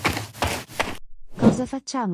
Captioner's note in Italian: FX - Footsteps - On Multiple Dirt - Run; FX - Whoosh - 03